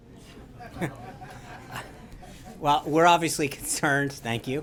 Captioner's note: laughter